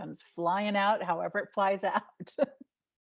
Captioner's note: laughing